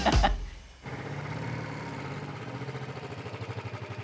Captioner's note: engine revving